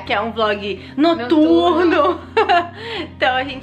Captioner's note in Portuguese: risos